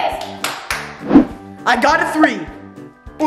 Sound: claps

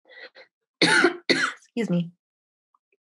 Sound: coughs

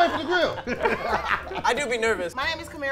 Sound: laughing

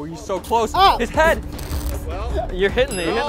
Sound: screams

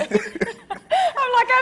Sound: both laughing

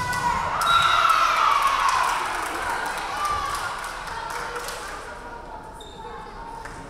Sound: crowd cheering; referee whistling

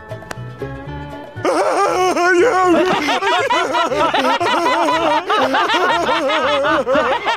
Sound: laughing

